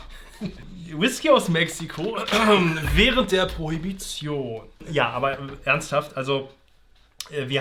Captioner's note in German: Räuspern